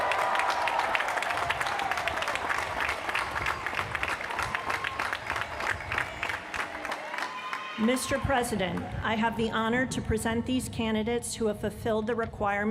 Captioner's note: cheers & applause